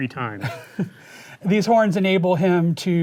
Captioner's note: chuckling